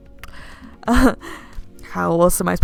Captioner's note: chuckle